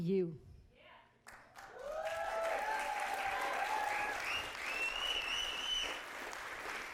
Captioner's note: audience applauding